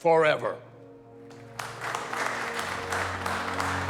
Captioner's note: applause